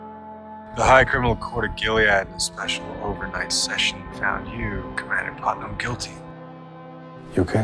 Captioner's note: voiceover